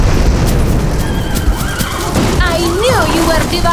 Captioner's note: explosion roars; horses neigh